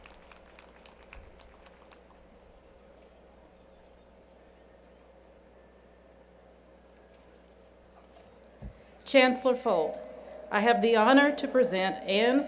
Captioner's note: applause